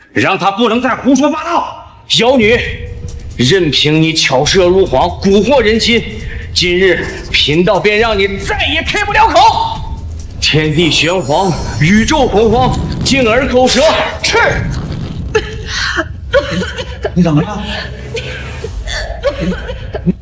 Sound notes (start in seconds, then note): 14.4 cough, cough